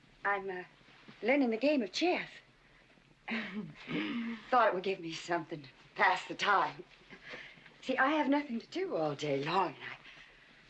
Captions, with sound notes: I'm...learning the game of chess. (hemming & hawing) Thought it would give me something to pass the time. See I have nothing to do all day or night...